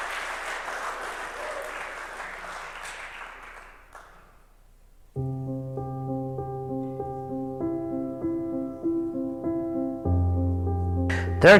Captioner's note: applause